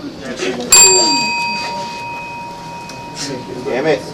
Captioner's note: bell chimes